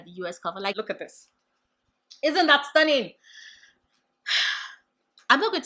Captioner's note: sigh